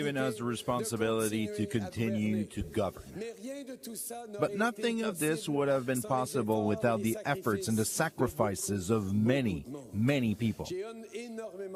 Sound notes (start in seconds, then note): 2.2 speaking in French